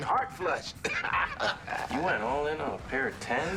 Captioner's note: laughs